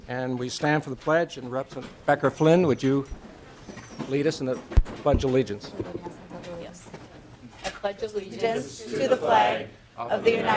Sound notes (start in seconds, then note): 1.6 gavel